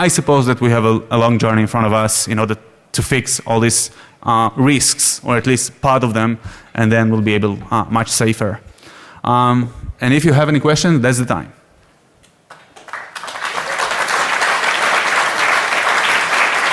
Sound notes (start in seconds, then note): 12.4 applause